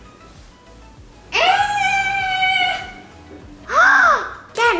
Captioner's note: screaming